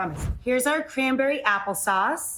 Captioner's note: air whooshes